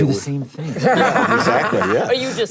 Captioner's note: panelists laugh